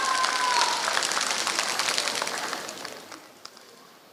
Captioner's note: applause